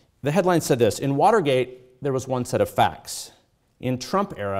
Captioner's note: none